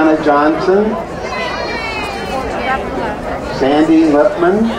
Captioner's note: crowd cheering